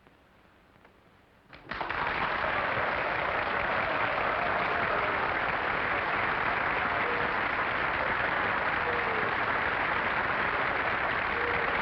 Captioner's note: applause